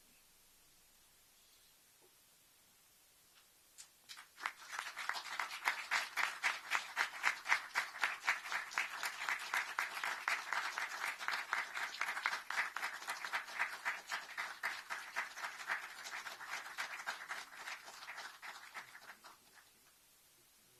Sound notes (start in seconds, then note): 4.0 applause